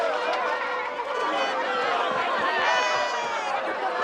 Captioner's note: excited chatter